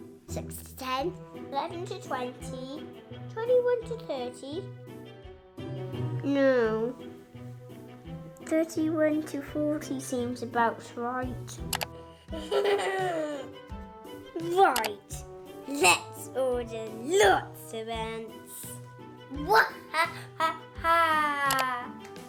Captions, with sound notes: 6 to 10... 11 to 20... 21 to 30... no.. 31 to 40 seems about right ! (laughs) Right, lets order lots of ants! HA HA HA !